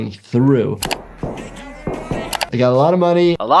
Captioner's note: key clacks